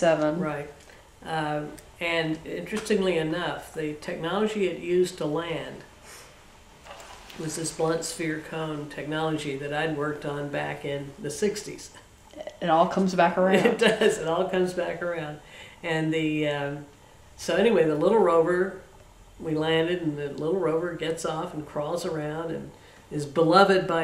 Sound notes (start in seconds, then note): 13.3 laughs